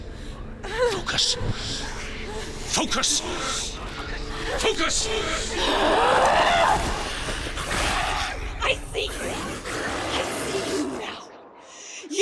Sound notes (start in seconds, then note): 1.0 whimper; 5.4 yells with exertion; 8.3 screech